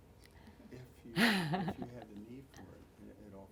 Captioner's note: laughing